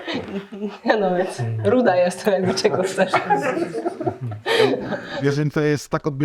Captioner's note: laughs